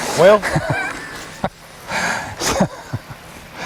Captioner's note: laughter